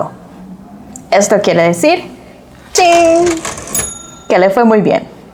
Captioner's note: ka-ching